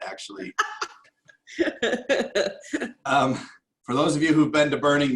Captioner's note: laughter